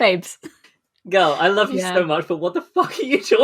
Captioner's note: laughing